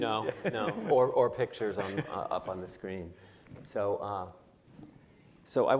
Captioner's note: laughter